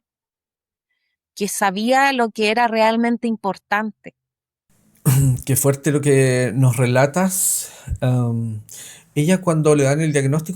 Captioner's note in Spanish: carraspeo